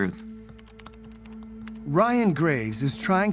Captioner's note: keyboard clacking